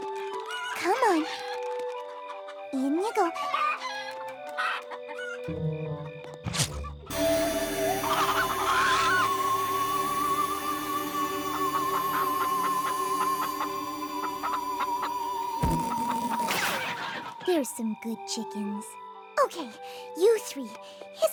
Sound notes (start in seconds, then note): 7.2 warbling; 8.4 clucks; 10.0 warbling continues; 11.2 all clucking